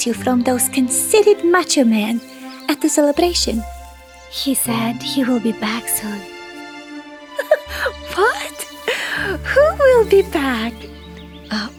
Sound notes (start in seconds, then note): 7.4 giggles